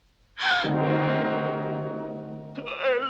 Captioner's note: Brigitte gasps; suspenseful music; crying